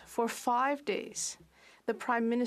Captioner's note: speaking French